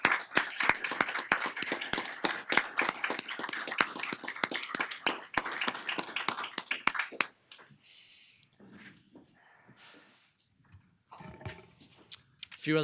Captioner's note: applause